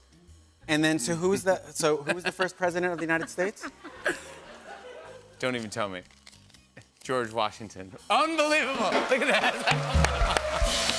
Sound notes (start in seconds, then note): 3.6 laughter; 8.8 cheers and applause